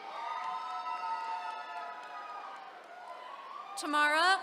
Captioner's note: attendees cheering